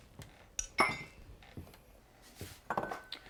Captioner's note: cup clinks